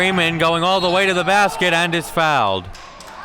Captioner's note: whistle blows